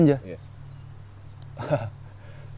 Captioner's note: laughs